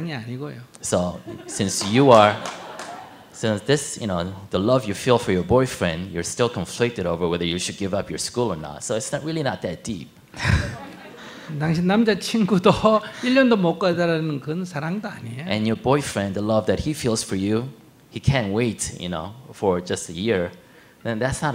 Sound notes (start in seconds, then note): 10.4 audience laugh